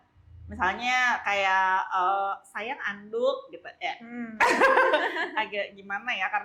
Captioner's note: laughs